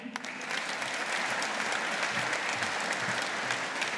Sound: audience applauding

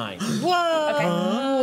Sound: gasps

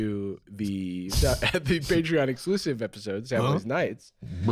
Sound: laughs

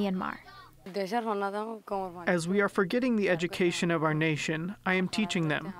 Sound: through translator

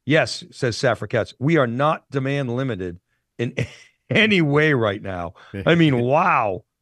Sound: chuckles

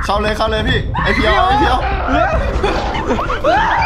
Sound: radio; laughs; screams

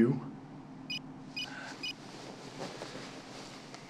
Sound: phone beeps

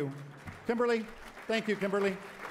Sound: applause

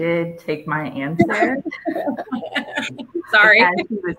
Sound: all laughing

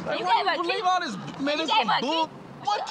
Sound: shouting

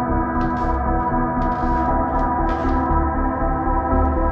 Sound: stairs creaking

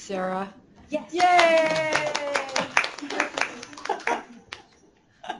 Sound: applause

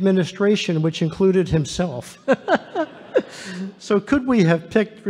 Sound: laughing

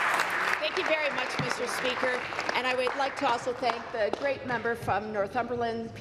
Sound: applause

